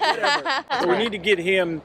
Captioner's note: laugh